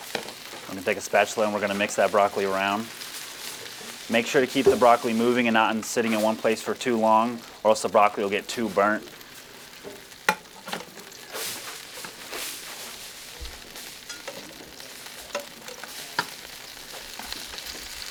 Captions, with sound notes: I'm gonna take a spatula and we're gonna mix that broccoli around. Make sure to keep the broccoli moving and not sitting in one place for too long or else the broccoli will get too burnt. (broccoli sizzling)